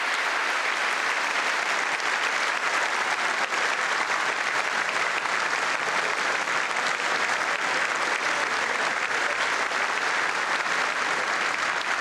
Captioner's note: applause